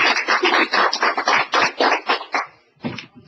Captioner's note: applause